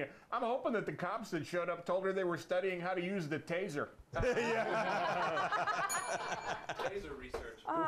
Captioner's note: laughter; bell rings